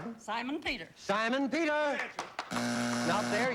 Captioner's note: buzzer